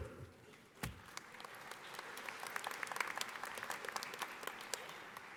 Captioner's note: audience applauding